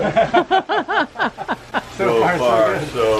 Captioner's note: laughter